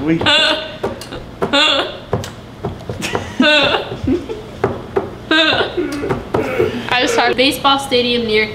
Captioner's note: laughing